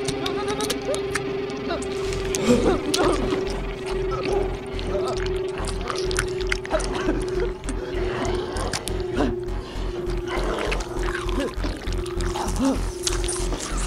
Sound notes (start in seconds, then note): 0.0 zombies groaning; 0.2 flesh cracking; 1.9 Jimmy moaning; 5.9 flesh squelching